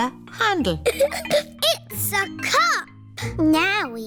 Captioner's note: giggles